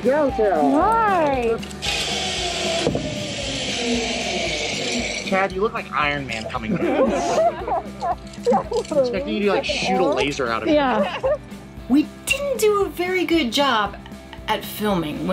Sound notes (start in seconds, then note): 1.5 wire zipping; 6.4 crowd laughs